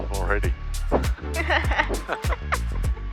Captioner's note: both laughing; cheerful music